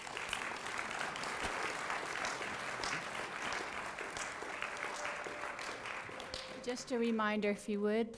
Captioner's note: applause